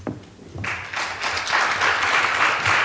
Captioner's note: applause